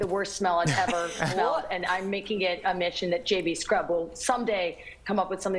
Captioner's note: laughter